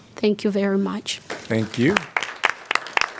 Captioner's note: applause